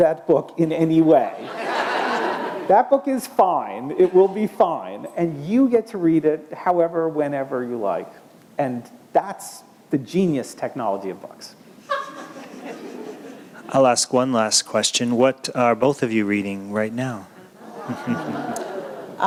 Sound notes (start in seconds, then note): 11.8 laughter